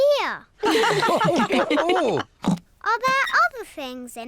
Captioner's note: all laugh